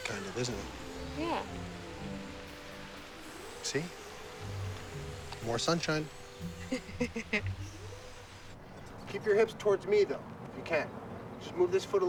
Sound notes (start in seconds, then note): 6.5 laughing